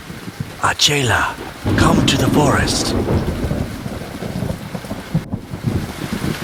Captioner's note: thunder cracking